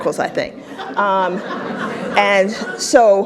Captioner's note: audience laughs